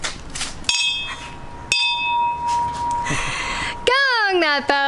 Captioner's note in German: Klingel läutet